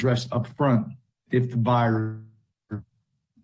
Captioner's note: distorted audio